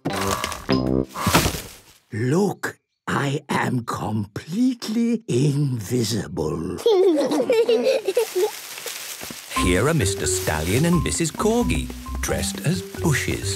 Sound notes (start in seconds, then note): 1.2 whispering; 6.7 kids giggling